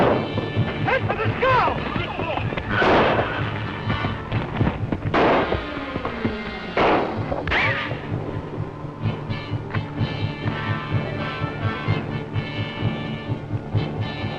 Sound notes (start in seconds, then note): 2.8 gunshots